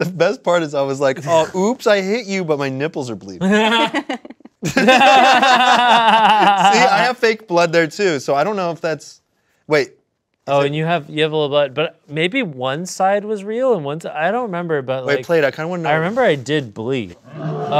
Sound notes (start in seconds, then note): 3.4 laughing